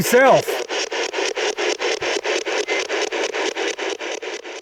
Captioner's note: static ticking